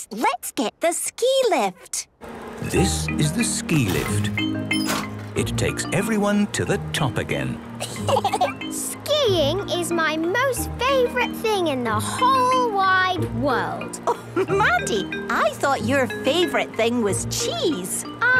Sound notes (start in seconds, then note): 7.8 laughter